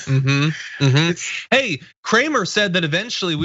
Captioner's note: laugh